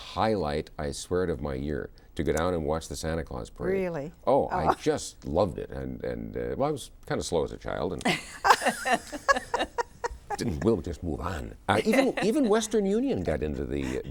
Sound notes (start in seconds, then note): 5.4 laugh; 11.0 both laugh